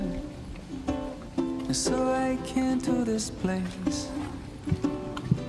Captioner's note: sounds of civilization